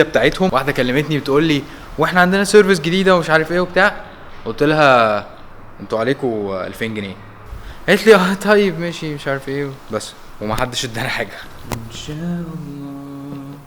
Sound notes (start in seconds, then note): 8.5 a hesitant speech; 11.5 singing